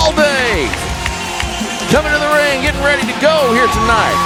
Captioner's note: audience cheering, clapping